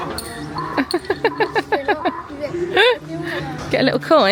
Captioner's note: donkey hee hawing; laughing